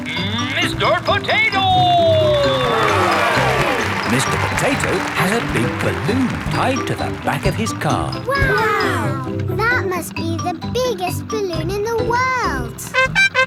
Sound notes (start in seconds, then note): 3.2 cheering; 13.0 horn beeping